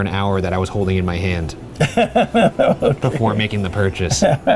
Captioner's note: laughing